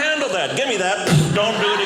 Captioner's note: loud blowing